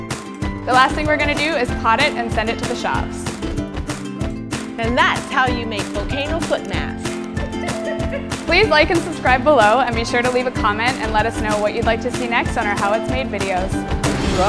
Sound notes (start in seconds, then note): 0.1 upbeat music; 4.6 upbeat music; 7.4 laughing